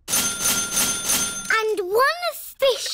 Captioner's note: dinging